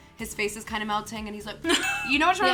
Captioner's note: laughs